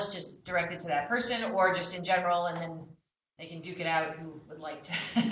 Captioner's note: laughter